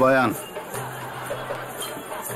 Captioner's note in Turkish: Gülme efekti